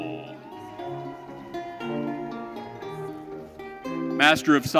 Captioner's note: audience cheering